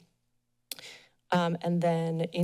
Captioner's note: smacks lips